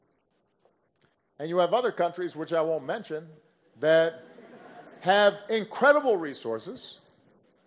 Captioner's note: laughter